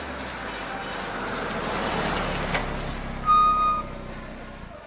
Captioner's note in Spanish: Sonido de carros que se acercan